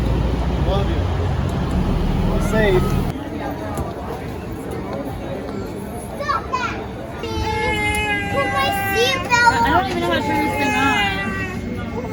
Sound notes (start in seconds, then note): 3.7 airport chatter; 7.4 baby crying